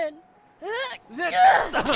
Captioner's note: grabbing effort